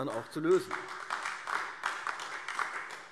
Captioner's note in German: Beifall AfD